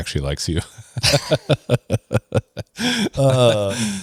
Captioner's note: laughs